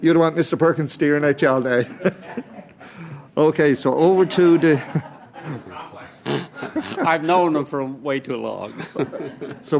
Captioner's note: laughter